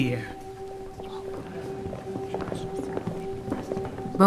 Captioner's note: footfall